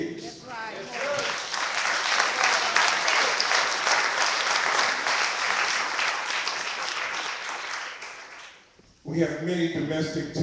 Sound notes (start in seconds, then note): 0.9 clapping